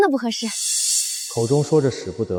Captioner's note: shh